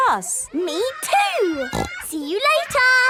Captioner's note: snorting; giggling